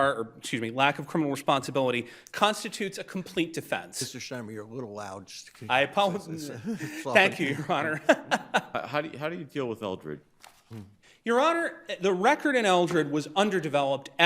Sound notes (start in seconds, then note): 8.6 chuckling